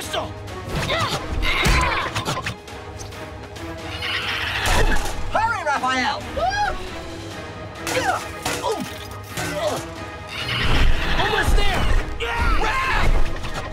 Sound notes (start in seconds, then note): 0.3 grunting; 3.9 squawking; 7.5 grunting, thudding